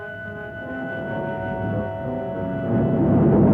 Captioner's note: fire roaring